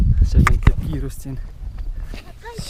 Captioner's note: fast running